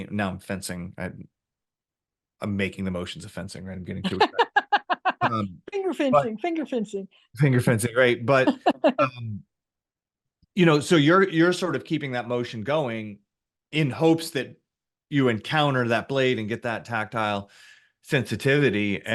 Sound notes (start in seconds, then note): 4.0 laughs